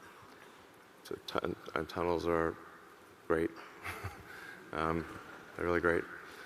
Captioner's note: chuckles